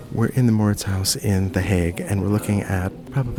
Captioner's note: voiceover